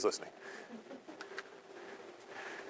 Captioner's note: students laughing